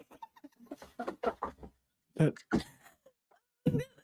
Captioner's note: laughs